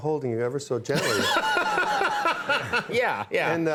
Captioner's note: Conan laughing